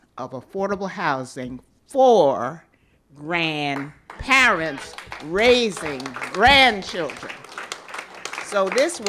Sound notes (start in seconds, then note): 7.4 applause